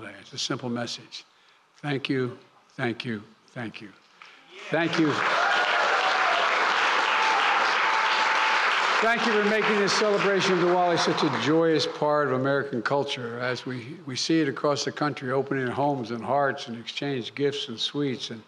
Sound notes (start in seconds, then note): 4.5 applause